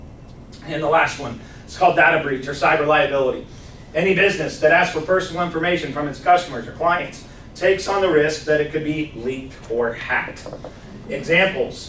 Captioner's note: clears throat